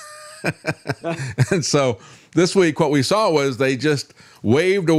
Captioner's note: laughs